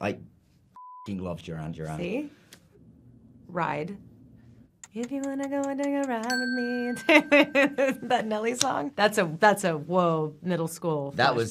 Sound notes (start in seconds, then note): 0.8 beep; 4.8 timer ticking; 6.0 timer dinging; 7.0 Evan laughing